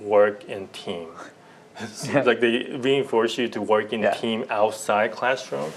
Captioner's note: laughter